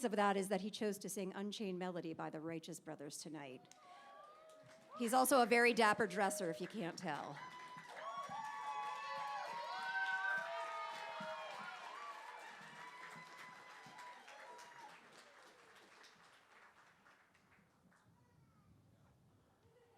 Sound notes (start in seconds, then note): 7.8 cheering